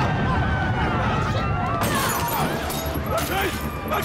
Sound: screaming; smashing glass

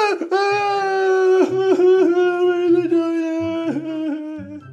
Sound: Freddy Cries

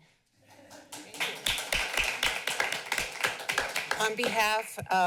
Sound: applause

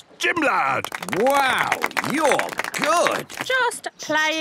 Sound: clapping

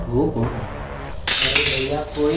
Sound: stapler drops

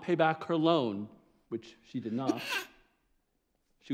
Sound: sneezes

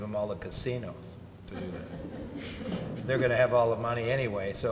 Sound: audience laughs

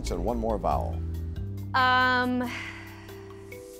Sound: sighs

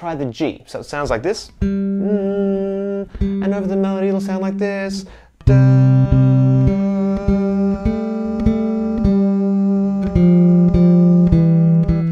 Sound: hums a G; plays melody

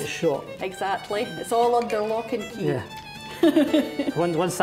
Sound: laughing

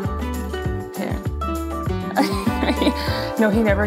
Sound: laughs

